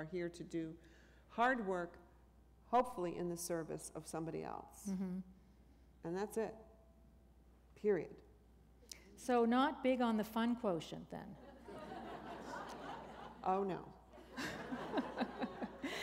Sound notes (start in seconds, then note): 12.5 laughter